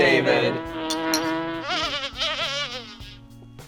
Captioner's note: buzzing